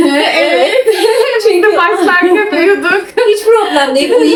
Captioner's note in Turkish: kahkaha